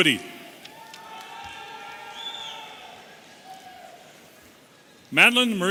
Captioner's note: audience cheering